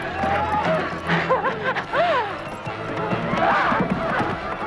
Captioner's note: Hundra laughs